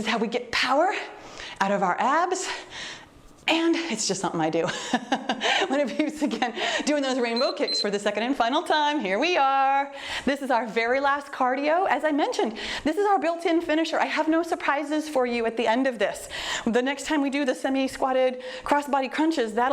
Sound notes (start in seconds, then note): 0.0 exhales deeply; 4.8 laughs; 7.3 timer beeps